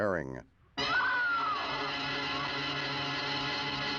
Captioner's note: screams